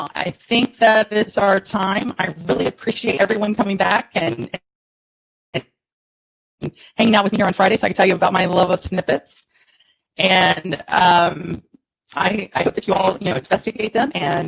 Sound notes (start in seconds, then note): 4.5 audio distortion